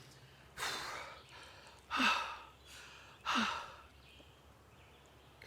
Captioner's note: Arawn breathing heavily